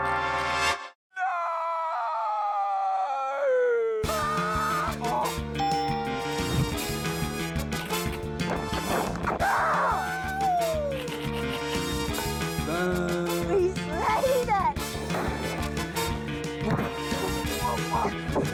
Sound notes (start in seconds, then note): 4.2 screams; 5.6 ding!